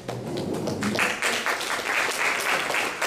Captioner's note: audience applauding